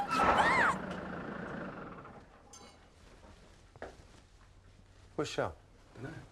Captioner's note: tires squealing